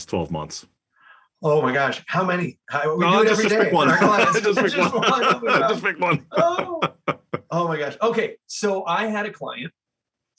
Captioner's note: laugh